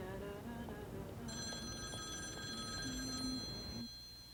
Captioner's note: phone ringing